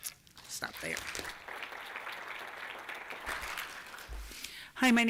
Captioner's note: applause